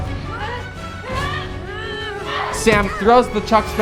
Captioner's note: girls grunt